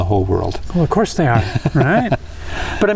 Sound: laughs

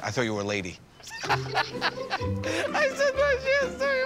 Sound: laughs

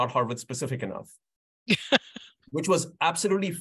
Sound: laughs

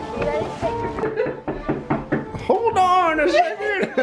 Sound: knocking on the door

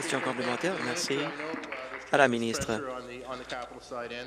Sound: applause

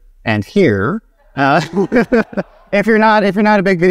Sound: laughs

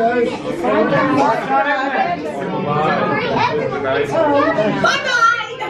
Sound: chatter

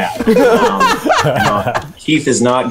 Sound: laughing

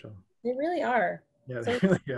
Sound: laughs

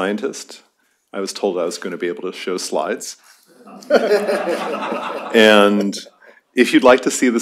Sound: laughter

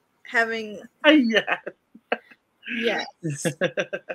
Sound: laughs

